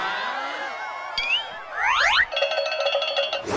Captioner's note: bell dings; cow bells ring